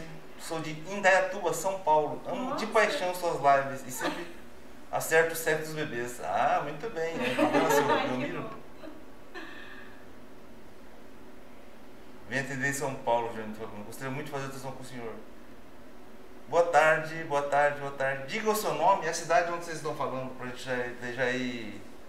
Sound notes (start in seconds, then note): 7.2 laughs